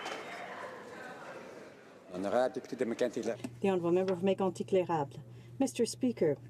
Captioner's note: some Applause